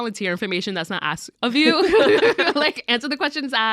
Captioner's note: laughs